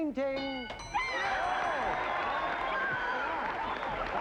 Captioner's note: yelling